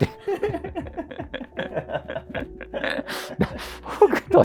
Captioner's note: laughing